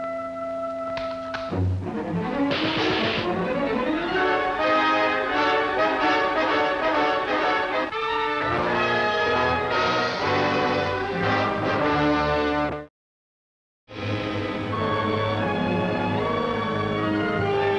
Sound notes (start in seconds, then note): 2.5 machine guns firing; 6.4 dramatic music